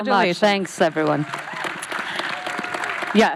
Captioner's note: audience applauds